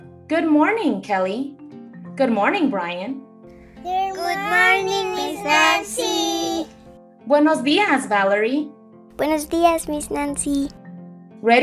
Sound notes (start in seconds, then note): 7.9 speaks in foreign language